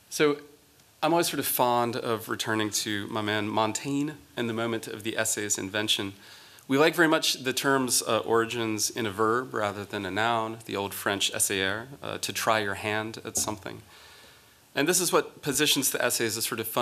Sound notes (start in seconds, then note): 11.6 french